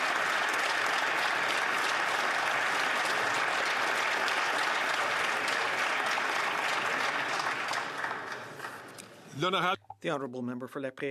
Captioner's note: some Applause